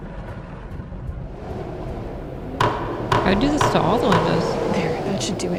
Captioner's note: hammering nails on wood